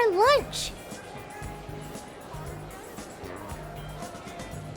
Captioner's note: museum patrons chattering